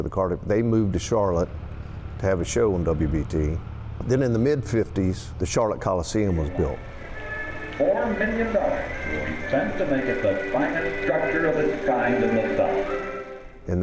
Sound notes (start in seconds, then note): 7.8 radio reporter speaking faintly